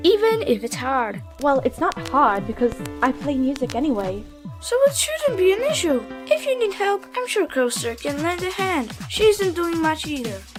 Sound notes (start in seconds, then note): none